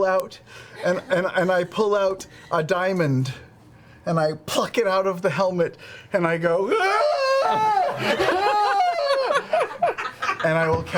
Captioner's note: screams